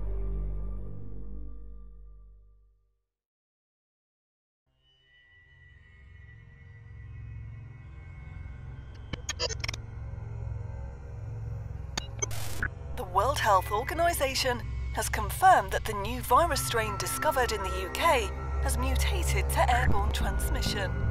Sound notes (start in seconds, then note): 4.0 suspenseful music; 8.2 static buzzing